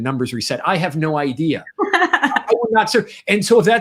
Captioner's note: laughs